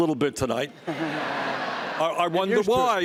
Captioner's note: laughs